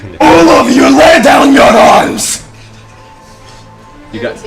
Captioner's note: shouts